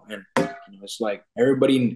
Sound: metal clinks

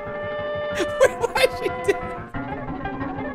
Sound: sped-up horn music; laughing

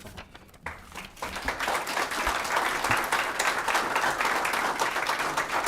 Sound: applause

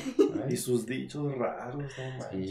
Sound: laughing

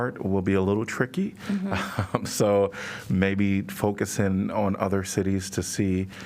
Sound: laughter

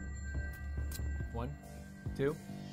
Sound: chime

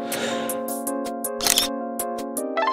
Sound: inhale, exhale; camera shutter

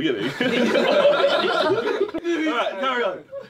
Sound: all laughing

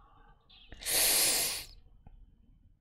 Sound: sharp inhale

